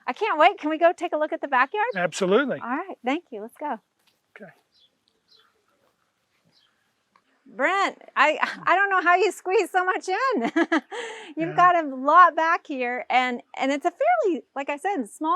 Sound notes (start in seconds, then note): 5.4 birds chirping; 11.3 laughs